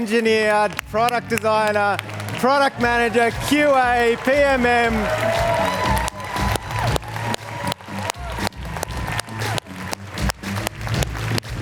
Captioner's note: applause